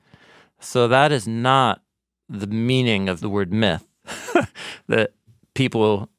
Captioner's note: laughs